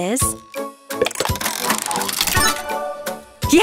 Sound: cranking

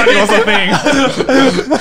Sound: laughing loudly

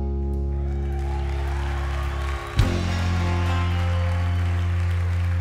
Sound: crowd cheering

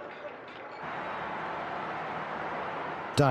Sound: crowd cheering

